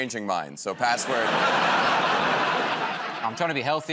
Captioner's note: laughter